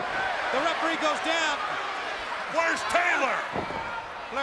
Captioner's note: crowd cheering